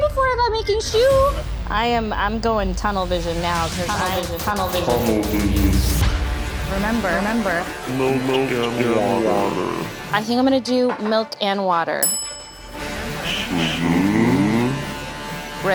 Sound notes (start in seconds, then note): 4.1 intense music; 4.1 voice echos; 12.0 bell dings